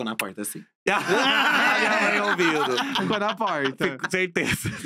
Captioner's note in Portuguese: risos